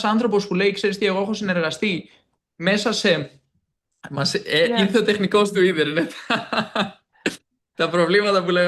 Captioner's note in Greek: γέλια